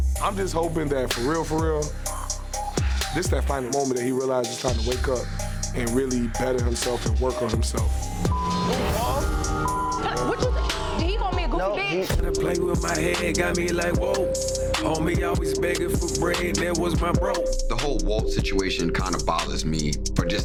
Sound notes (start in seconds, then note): 7.8 beeps